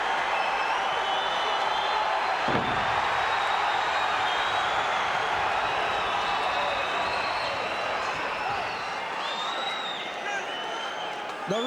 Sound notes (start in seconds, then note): 0.2 crowd cheers; 2.4 feet stomping